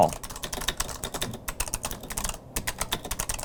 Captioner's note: loud typing